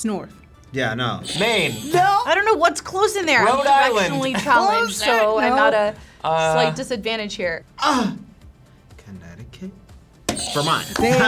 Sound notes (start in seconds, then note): 7.8 exclaims; 10.3 buzzer squeals